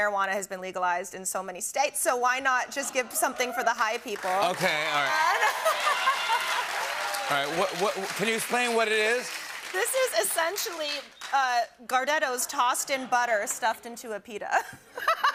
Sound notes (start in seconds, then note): 5.6 cheers and applause